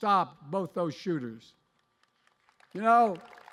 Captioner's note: applause